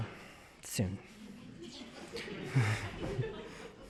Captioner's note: laughter